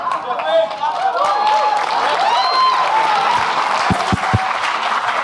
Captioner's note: audience laughing and clapping